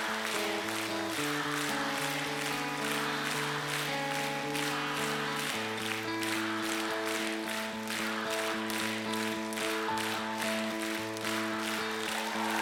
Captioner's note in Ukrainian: оплески